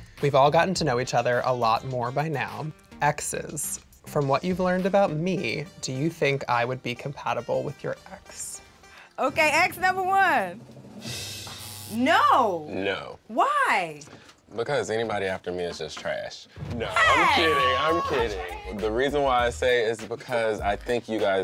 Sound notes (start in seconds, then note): 11.5 buzzer